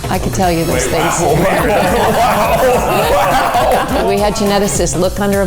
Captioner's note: all laughing